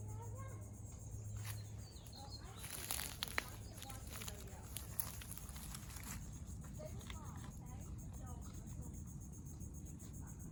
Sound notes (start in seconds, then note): 1.9 cicadas chirping/leaves crunching